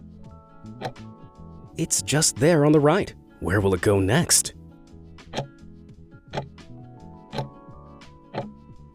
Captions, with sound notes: It's just there on the right. Where will it go next? (timer ticking)